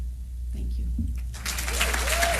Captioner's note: applause